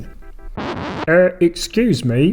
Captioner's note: record scratches